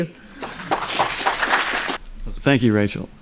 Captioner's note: applause